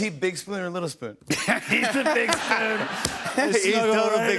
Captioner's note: laughter